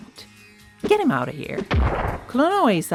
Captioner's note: crushing noise